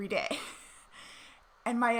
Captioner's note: laughing